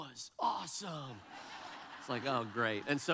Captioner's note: audience laughs